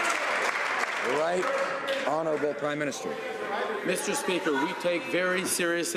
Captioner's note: some Applause